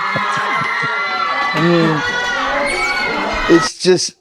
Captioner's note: cheering